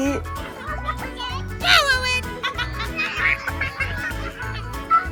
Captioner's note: general children playing noise